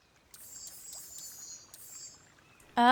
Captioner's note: birds chirping